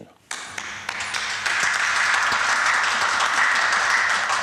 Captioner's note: rapid clapping